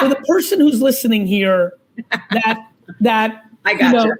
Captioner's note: laughs